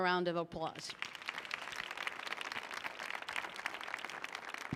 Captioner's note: audience applauding